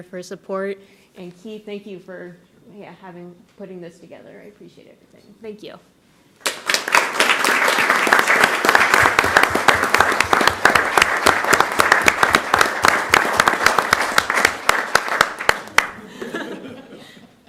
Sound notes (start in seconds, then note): 6.4 applause; 15.9 laughter